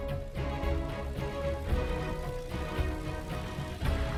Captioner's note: plane engine roaring